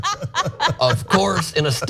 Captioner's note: laugh